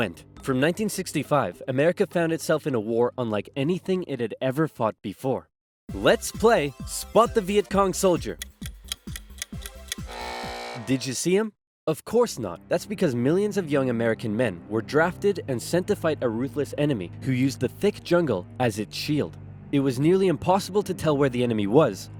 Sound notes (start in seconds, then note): 8.4 ticking; 10.0 buzzer